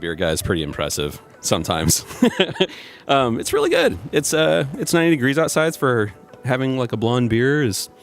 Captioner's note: laughs